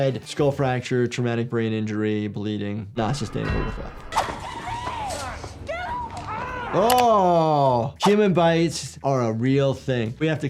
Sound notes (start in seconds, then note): 5.6 David screams